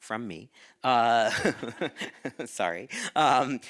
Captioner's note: chuckling